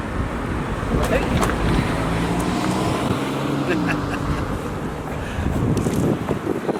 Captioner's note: chuckles